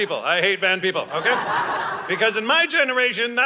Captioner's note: audience laughing